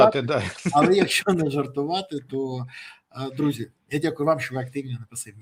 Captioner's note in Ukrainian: сміх